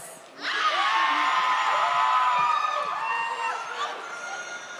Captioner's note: audience cheers